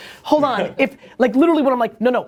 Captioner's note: laughter